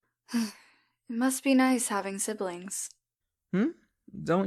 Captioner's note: sighs